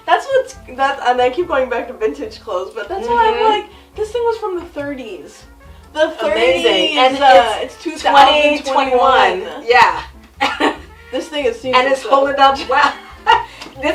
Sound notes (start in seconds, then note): 10.3 chuckles; 12.6 laughs